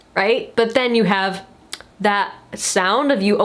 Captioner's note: lips clicking